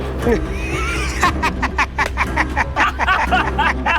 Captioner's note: laughs